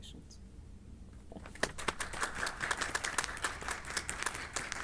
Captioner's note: group clapping